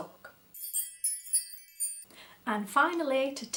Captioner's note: tinkling bell noise